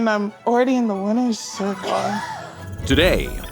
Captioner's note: laughing